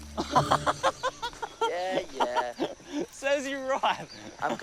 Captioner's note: laughs